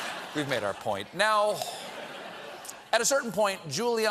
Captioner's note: audience chanting